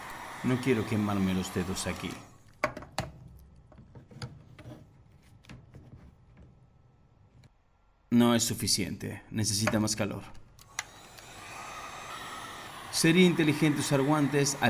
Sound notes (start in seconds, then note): 0.0 Se detiene el sonido de la pistola de calor; 10.6 Se oye la pistola de calor